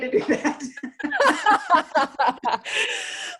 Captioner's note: laughs